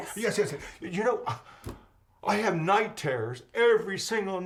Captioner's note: gasps